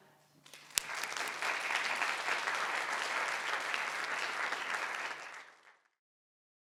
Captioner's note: audience applauds